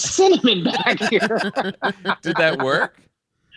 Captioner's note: all laughing